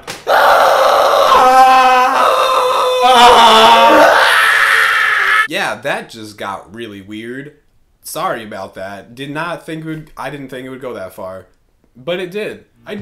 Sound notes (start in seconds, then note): 0.2 screaming; 4.1 crying